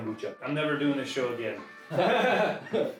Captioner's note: laughing